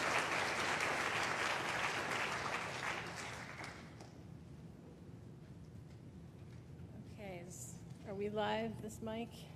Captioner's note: applause